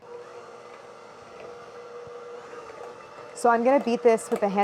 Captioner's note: mixer whirring